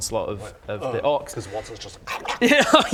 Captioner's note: om nom nom